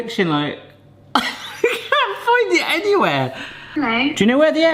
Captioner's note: laughs